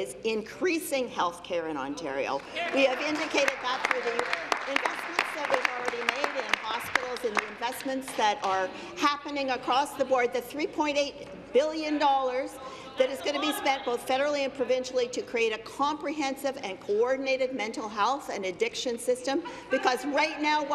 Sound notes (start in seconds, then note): 5.7 applause